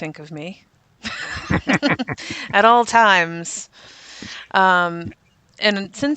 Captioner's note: laughs